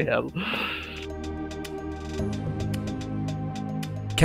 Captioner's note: voiceover